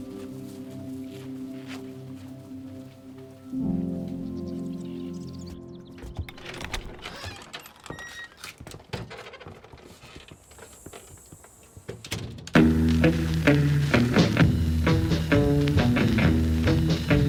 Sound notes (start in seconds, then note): 6.0 door creaks; 12.5 country blues music